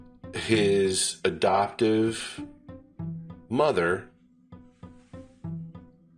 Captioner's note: man speaking very slowly